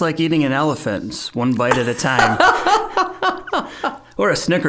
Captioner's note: both chuckling